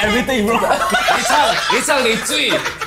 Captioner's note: laughs